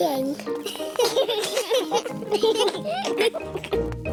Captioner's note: children giggling